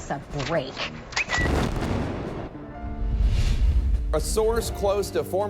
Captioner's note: bird tweeting; bomb exploding